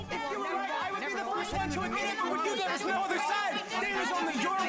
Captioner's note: clamoring